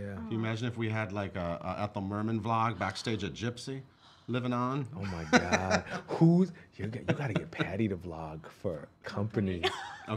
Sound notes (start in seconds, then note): 5.0 laughing